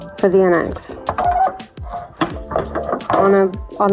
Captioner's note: awful plastic squeak